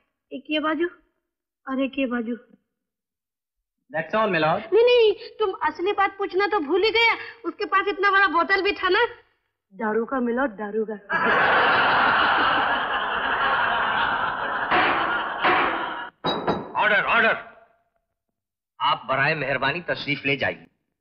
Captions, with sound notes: One on each side That's all, my lord. You forgot to ask the real thing ! He also had such a big bottle A bottle of booze (Laughs) - (Gavel Banging) Order! Order! Thank you, you may go